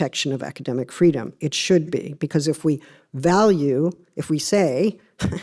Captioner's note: chuckles